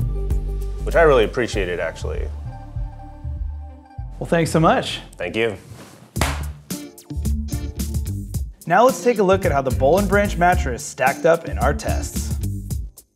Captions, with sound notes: which I really appreciated, actually. - Well, thanks so much. - Thank you. (hands clap) (funky music) - Now let's take a look at how the Boll & Branch Mattress stacked up in our tests.